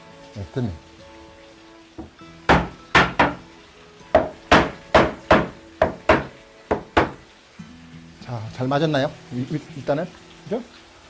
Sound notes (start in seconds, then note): 2.4 hammering sound